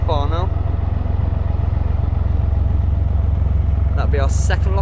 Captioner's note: narrowboat engine sounds